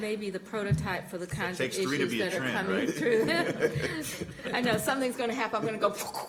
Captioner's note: laughter